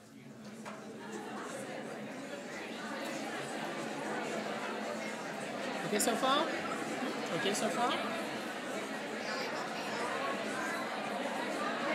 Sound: audience chatter

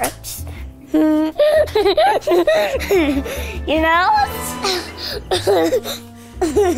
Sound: laughs

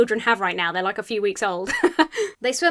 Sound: chuckles

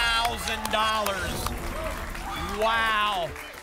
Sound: applause and cheering

